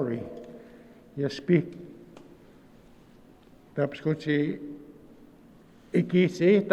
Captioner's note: speaking in Nêhiyawêwin